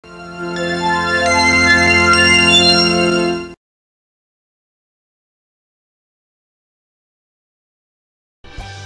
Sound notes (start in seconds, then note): 0.0 80s synthesizer music plays; 3.8 silence; 8.4 soul music playing